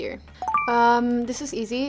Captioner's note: bell chiming